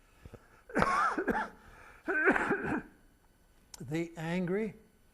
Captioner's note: coughing